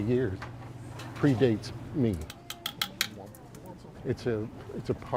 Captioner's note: kitchen utensils clank